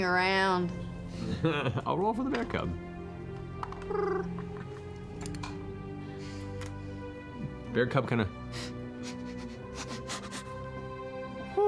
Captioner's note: laughs; cute growl; sniffing